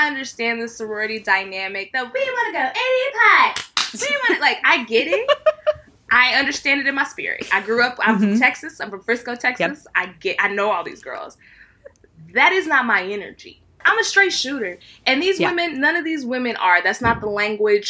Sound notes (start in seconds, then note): 3.5 clap,clap